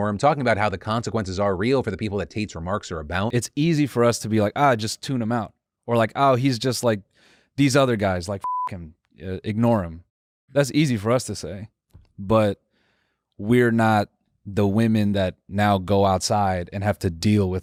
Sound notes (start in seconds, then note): 8.4 beep